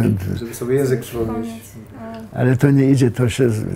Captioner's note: sympathetically